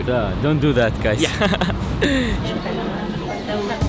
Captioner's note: laughing